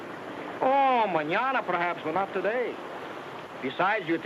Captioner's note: speaks in foreign language